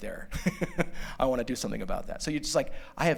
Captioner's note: laughter